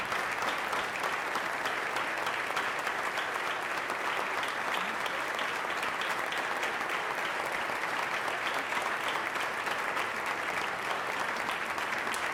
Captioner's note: applause